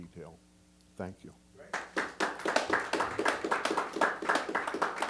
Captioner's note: applause